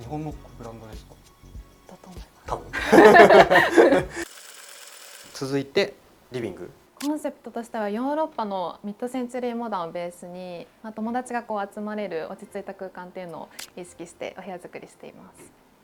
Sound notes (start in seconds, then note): 2.6 laughs